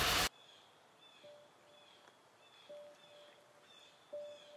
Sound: birds chirping; gentle upbeat music

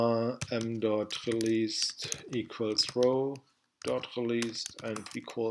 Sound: typing

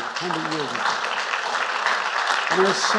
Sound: applause

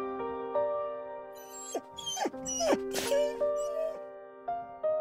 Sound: whine

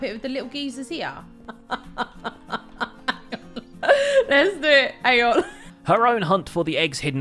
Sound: laughs

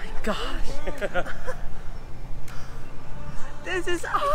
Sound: laughs

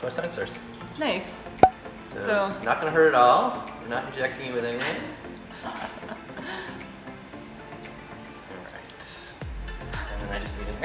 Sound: laughter

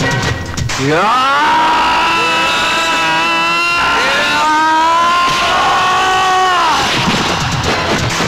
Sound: grunts

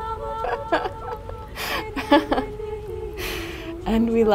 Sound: laughter

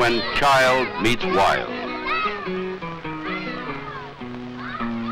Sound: excited children shouting

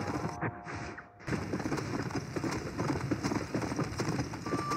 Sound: galloping horse

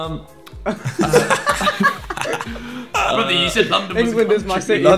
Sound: everyone laughing

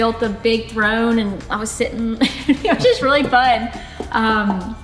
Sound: laughs

